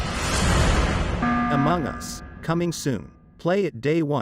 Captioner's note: alarm sounds